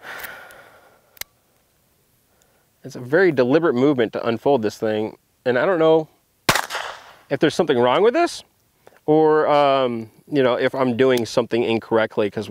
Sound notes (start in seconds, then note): 0.0 sighes; 6.4 gun fires